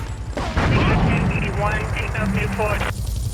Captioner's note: siren wailing